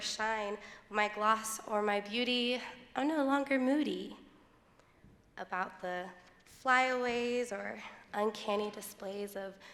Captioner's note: none